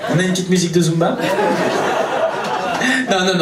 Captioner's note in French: rires public